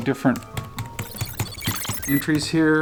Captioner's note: keys clicking; digital beeping